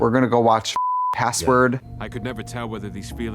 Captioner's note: beep